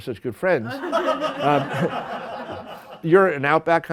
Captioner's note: laughter